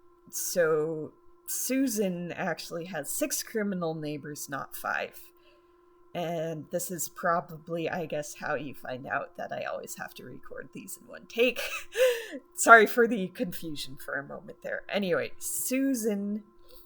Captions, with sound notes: >> So Susan actually has six criminal neighbors, not five. >> And this is probably, I guess, how you find out that I always have to record these in one take. [gasp of laughter] >> Sorry for the confusion for a moment there. Anyway, Susan